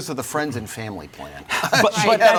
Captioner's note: laughs